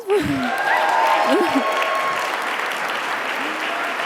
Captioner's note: audience applauding